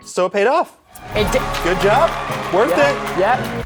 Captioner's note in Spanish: aplausos